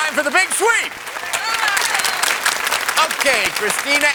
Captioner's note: cheers and applause